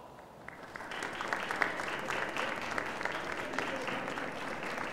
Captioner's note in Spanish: Aplausos